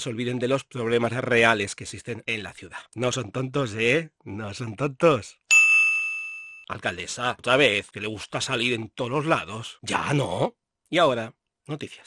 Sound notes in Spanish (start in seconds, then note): 5.5 Sonido de ding